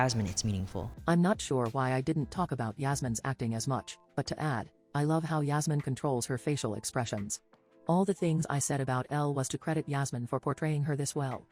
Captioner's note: robot voice